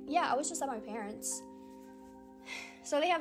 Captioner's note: sigh